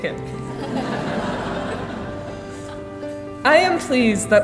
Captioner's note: laughing